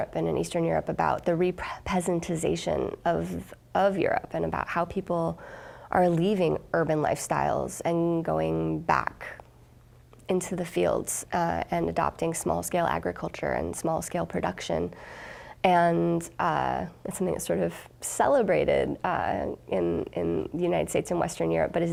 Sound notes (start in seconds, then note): none